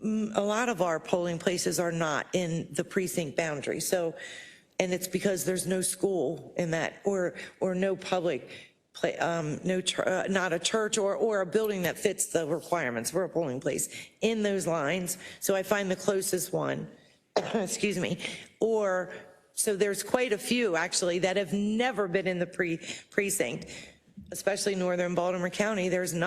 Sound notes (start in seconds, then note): 17.3 cough